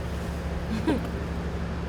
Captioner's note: little giggle